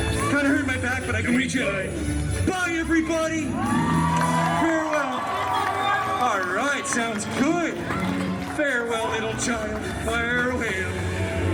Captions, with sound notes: Kind of hurt my back, but I can reach it, all right. - Can we go? Kind of hurt my back, but I can reach it, all right. Bye, everybody! [guests cheering] Farewell. All right. Sounds good. Farewell, little child. Fire away.